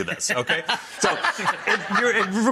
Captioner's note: all laugh